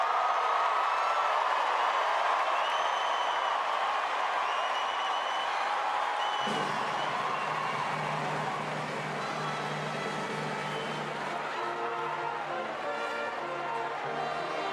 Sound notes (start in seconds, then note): 1.8 cheers and applause